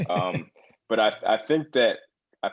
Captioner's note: laugh